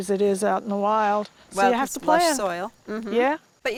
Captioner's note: murmurs